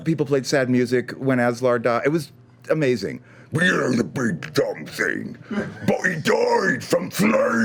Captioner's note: deep gruff voice; normal voice